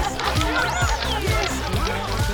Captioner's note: BB-8 sounds